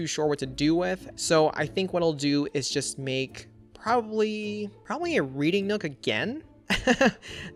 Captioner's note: laughs